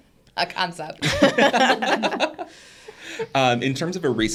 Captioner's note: participants laughing